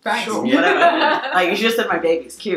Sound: laughing

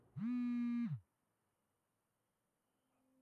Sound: phone buzzing

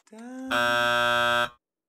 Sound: buzzer

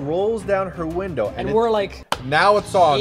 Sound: smacks hands

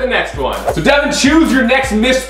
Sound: swoosh

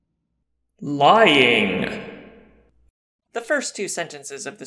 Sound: voiceover

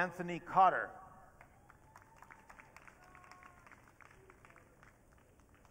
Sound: audience cheering

